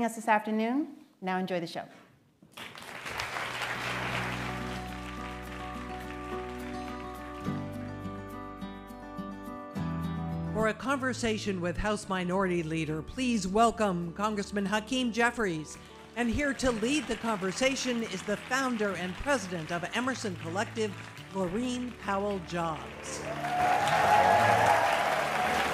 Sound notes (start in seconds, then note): 13.1 applause